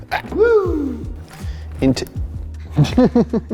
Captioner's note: laughs